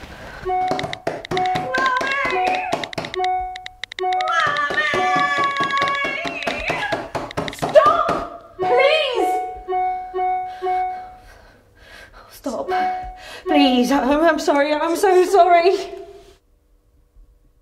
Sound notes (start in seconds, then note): 0.2 continuous phone notifications and knocking; 9.7 continuous phone notifications